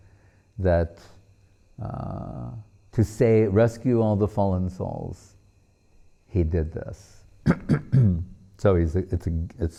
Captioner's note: clearing voice